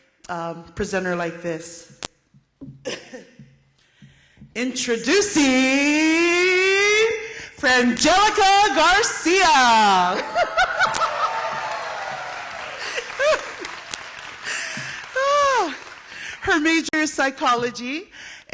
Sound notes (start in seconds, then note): 10.2 applause and laughter